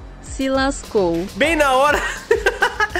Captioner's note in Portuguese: risos